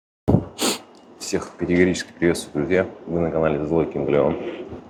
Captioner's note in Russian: фыркает